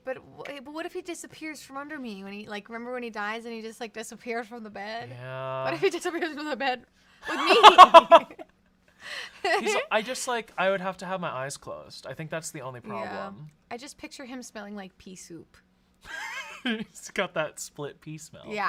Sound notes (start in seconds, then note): 7.3 laughs; 16.5 laughing